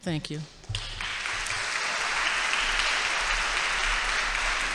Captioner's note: audience applauds